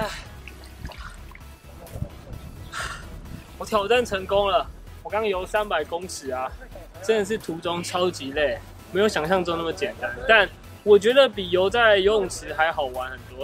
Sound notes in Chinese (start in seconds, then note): 2.6 吸口氣